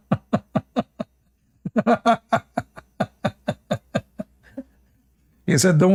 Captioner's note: Ketawa